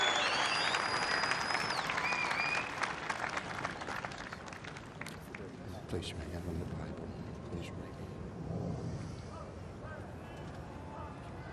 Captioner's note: cheering